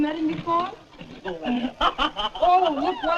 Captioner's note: laughter